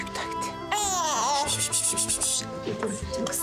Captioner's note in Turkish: Bebek ağlıyor